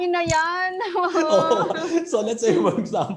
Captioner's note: laughs